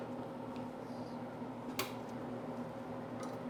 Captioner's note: lights clicking